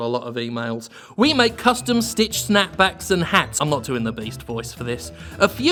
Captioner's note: reads in regular voice